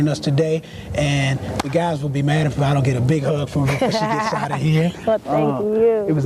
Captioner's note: laugh